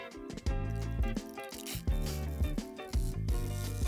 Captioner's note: film crinkling